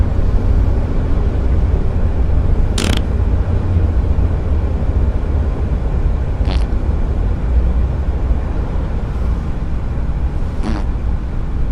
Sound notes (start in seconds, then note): 2.7 farts smugly; 6.4 fart surprise; 10.5 farts